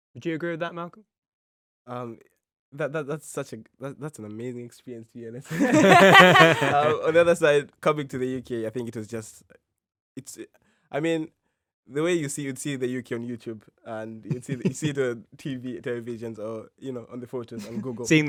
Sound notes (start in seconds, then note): 5.5 all laughing